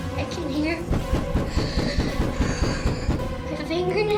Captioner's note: sound of knocking on door